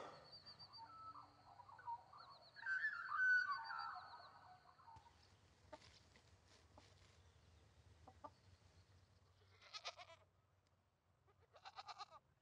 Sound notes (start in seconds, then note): 0.0 birds chirping; 5.8 chickens clucking; 9.6 goats bleating